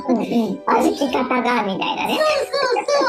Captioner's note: laughs